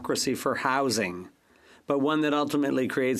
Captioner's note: speaking French